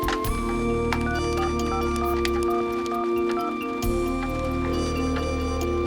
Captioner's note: dialing; ringing